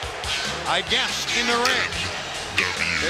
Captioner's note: crowd cheering